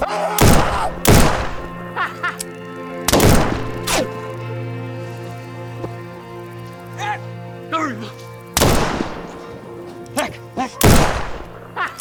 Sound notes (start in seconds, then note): 1.9 laughter